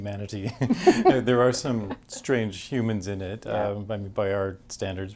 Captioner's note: both laugh